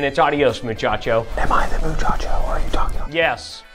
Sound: whispering

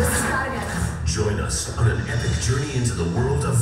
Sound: voiceover

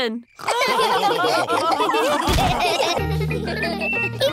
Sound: all laughing

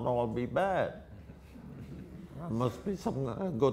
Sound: audience laughter

